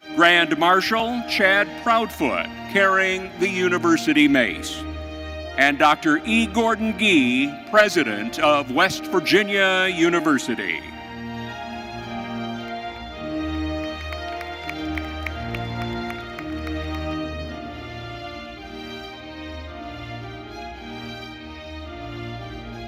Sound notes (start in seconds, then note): 11.3 majestic music continues; 13.2 audience applauding; 19.1 majestic music continues